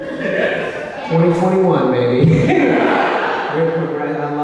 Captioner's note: laughs